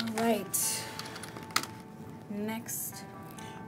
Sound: keyboard clacks

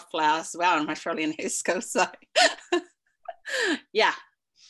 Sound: chuckles

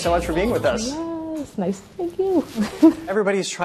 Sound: chuckles

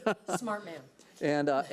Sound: laughing

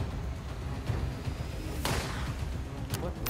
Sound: gunshot

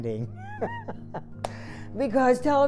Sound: laughing

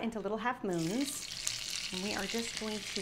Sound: oil sizzling

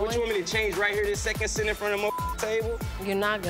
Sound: beep

